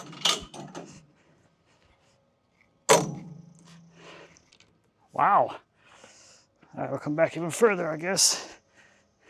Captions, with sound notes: (saw rattles) Wow. Alright, we'll come back even further I guess.